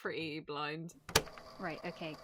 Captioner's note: tape recorder clicking on